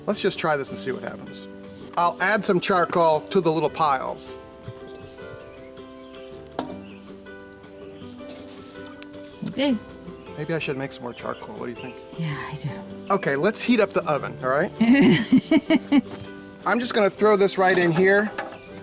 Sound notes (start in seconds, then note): 6.3 charcoal thuds; 14.8 laughs